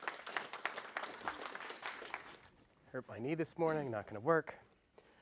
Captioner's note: applause